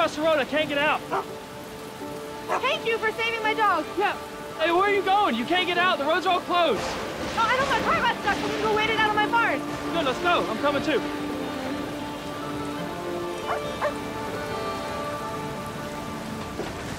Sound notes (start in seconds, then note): 2.4 Dancer barking; 13.4 Dancer barking